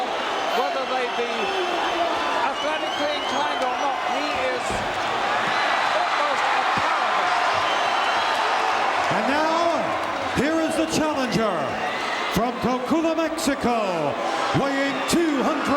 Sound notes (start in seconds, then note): 7.3 audience cheering